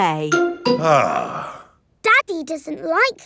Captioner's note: sighs